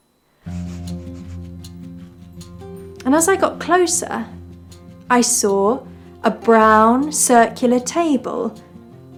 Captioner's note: sniff sniff; upbeat music starts